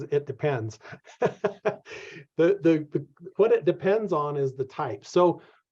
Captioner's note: laughs